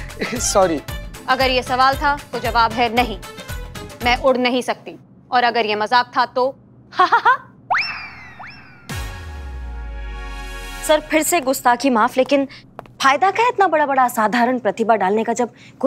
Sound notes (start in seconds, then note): 7.0 laughs